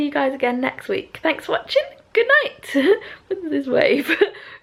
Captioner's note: laughs